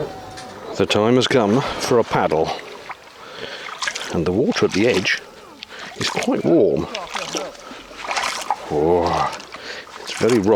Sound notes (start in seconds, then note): 7.2 splashes